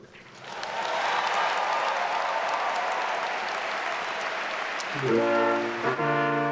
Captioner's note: attendees applauding and cheering; classical music